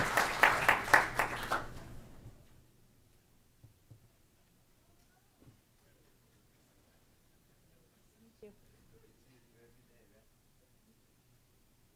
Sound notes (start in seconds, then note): 2.5 applause